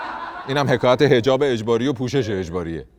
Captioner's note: laughter